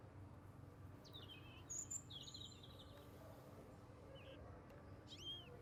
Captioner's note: birds singing